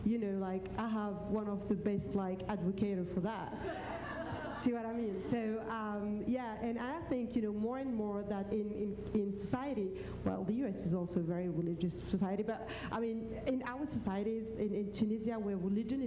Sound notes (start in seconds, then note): 3.6 laughter